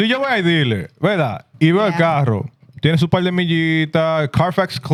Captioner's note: speaking Spanish